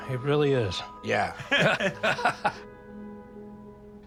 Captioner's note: both laugh